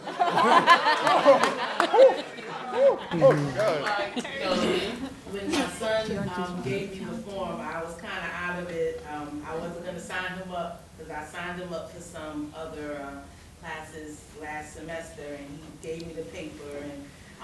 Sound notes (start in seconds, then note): 0.0 laughter and chatter; 5.5 quietly